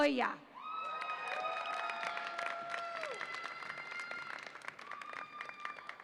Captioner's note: audience applauds and cheers